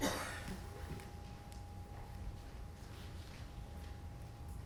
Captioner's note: person coughing